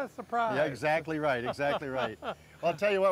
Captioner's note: laughing